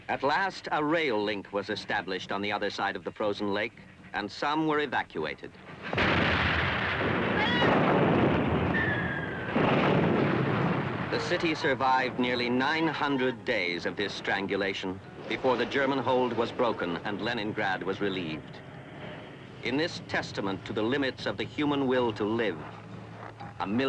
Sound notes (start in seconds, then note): 5.6 guns thudding; 5.7 explosion